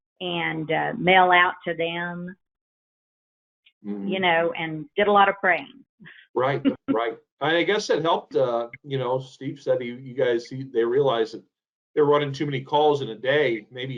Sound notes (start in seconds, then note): 7.4 laughs